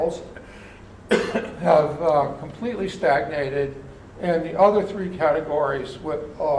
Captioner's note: cough